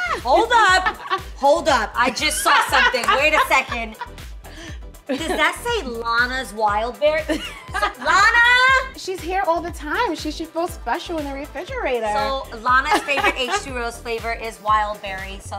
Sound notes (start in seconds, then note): 7.2 laughing; 8.0 yells